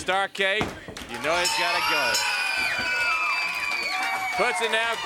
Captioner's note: hands smacking; bell dinging